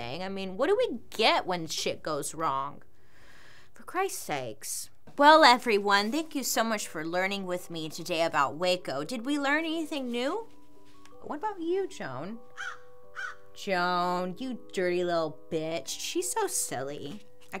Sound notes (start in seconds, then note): 13.1 cawing